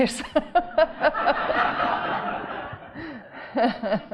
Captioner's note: audience laughing